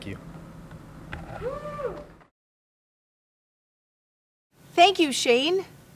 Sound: audience cheering

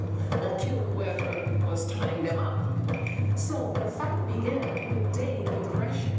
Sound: drumbeat music; background chatter

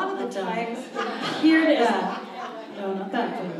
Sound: audience laughs

